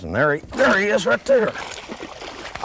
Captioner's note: splash